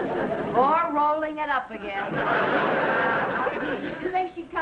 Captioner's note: audience laughing; audience laughing